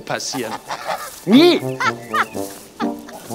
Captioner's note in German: Sie lacht